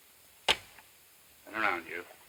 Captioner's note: gun thuds